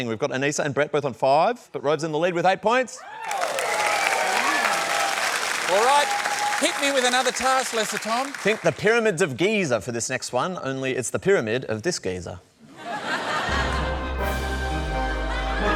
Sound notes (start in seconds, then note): 3.0 cheering and applause; 12.6 laughter